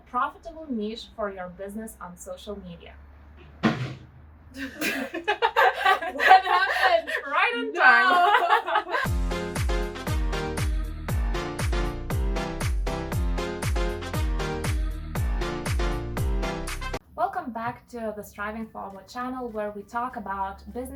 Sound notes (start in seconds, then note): 3.6 something's falling; 4.5 laughing